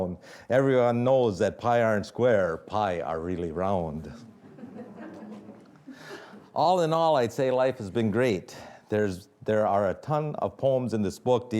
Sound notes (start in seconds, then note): 4.3 audience laughing